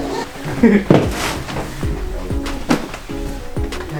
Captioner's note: giggles